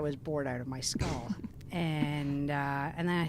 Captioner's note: laughs